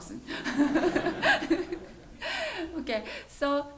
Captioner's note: laughter